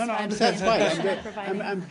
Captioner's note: laughter